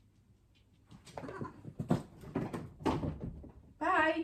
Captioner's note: cat thumps